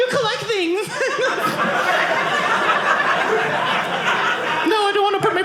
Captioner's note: audience laughing